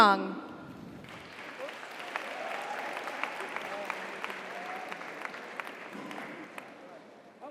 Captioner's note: audience applauds; audience cheers